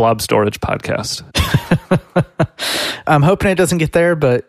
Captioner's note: laughs